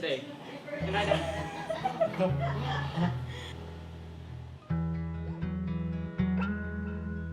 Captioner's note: gentle music; laughing